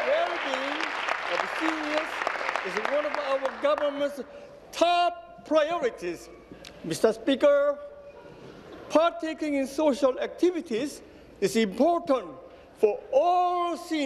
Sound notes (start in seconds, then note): 1.9 applause